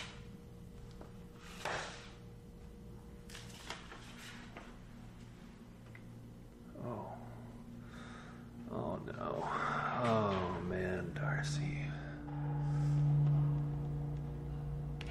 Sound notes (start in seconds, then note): 1.4 envelope scrapes; 3.2 letter crinkles; 12.2 ominous music